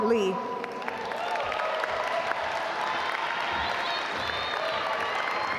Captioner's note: audience applaud